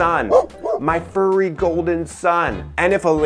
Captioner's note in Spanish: Ladridos de Tucker